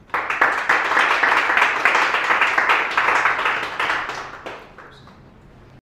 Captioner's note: applause